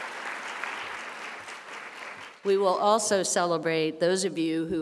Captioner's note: applause